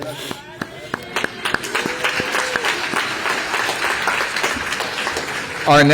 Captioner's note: applause